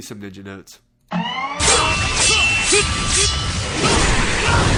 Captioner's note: loud sword slashing